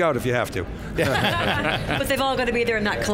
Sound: all laugh

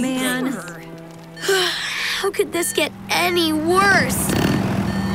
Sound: groaning; sighs

